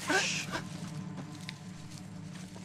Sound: Rikki screams

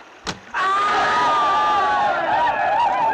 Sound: warriors whooping

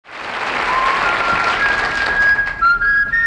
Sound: audience applauding

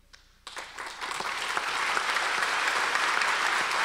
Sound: audience applause

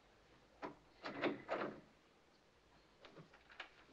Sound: door Opens

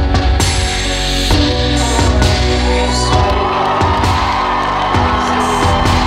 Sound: audience cheering

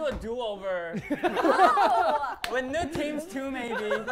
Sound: laughter

